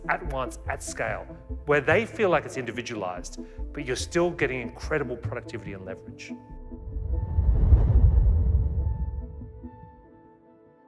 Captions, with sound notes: at once, at scale, where they feel like it's individualised, but you're still getting incredible productivity and leverage? (logo whooshing) (gentle foreboding music continues)